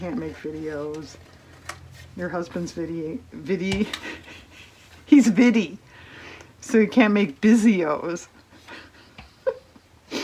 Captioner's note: laughs